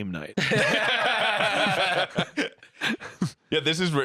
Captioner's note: laughing